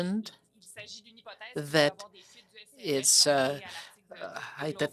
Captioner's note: speaking French